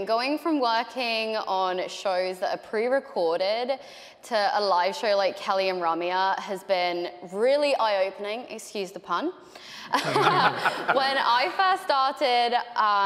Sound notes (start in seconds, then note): 9.9 laughing